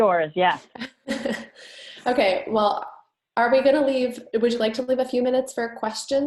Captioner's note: laughs